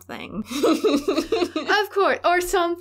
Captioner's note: laughter